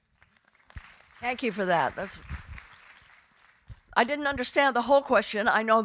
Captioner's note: audience applauding